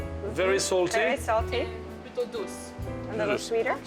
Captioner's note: speaking French